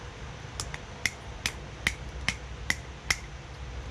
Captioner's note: tapping